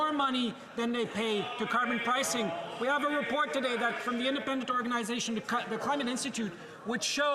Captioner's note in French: voix de l'interprète